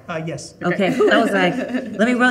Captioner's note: exclaiming; chuckling